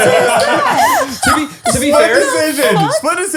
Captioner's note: all laugh